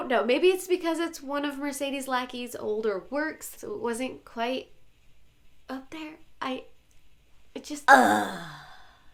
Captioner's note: groan